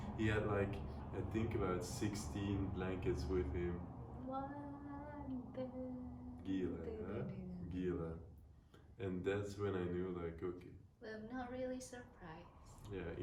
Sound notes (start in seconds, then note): 6.6 speaking foreign language